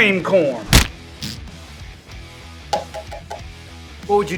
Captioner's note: man farts